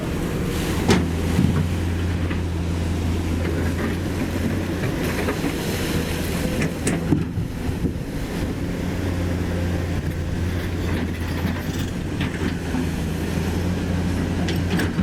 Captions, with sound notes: [Engine Rev] Racing the Flood Waters Komatsu PC210 & CAT 320D Team Up